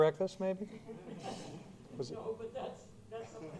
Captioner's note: laughter